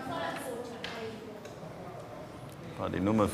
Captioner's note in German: Gespräche auf Spanisch